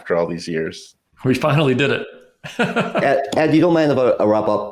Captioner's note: laughs